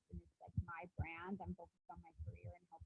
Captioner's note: speaking faintly